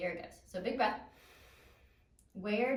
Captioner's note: deeply inhales